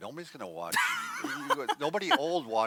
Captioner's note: laughs